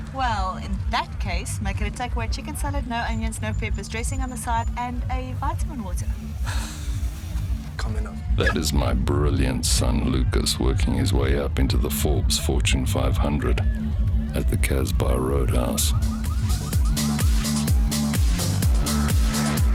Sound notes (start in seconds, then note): 15.5 car alarms; 17.9 dance music